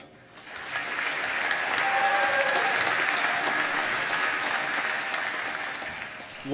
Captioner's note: applause